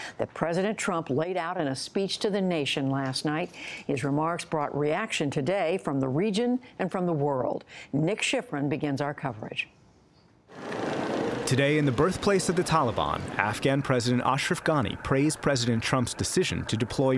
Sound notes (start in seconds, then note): 11.6 voice-over